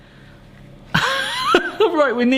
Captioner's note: laughing